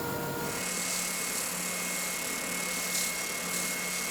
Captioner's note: drum sander hums